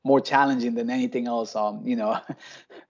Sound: laughs

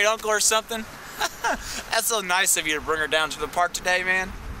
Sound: laughs

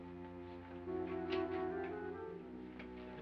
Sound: door opens

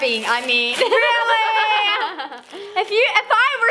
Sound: laughing

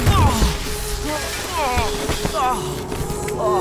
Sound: groans

